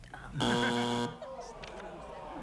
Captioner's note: buzzer